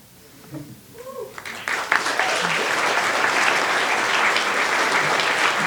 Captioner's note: applause